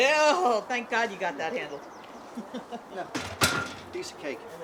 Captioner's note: laughing